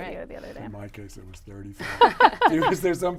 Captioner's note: laughing